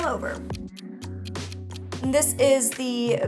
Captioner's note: clock ticking